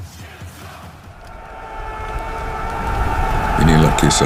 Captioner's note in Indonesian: berteriak